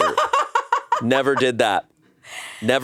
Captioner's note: laughs